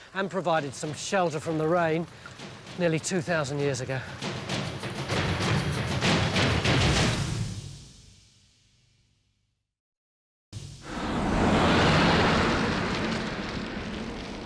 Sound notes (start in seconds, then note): 4.2 dramatic music; 10.8 car roars past